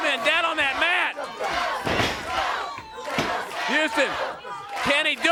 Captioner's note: crowd cheering